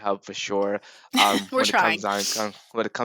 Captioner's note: chuckles